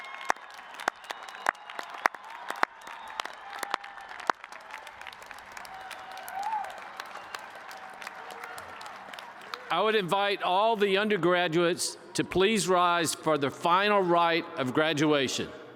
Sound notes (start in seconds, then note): 9.9 cheers and applause